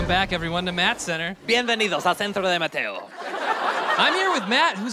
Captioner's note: speaks spanish